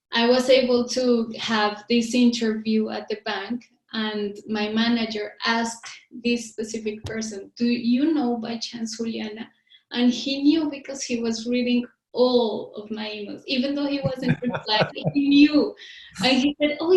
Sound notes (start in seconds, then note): 14.0 laughs